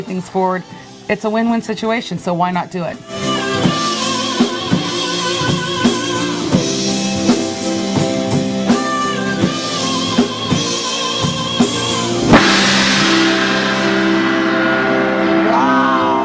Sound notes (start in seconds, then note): 3.7 rock music; 12.0 crashing gong